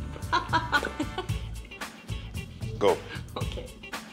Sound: laughing

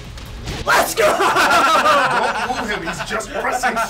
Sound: laugh

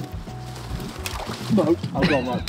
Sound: water sloshing

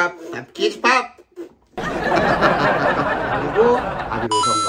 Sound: laughs

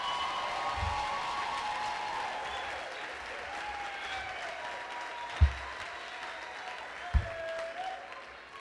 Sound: applause

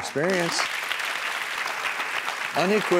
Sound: audience clapping

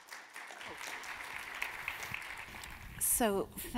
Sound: audience claps

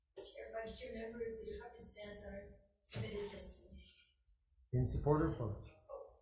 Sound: faintly speaking

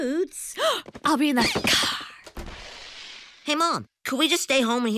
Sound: gasps

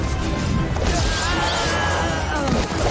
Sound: screaming

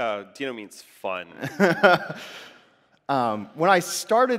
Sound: laughs

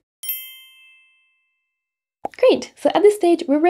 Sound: bell dinging

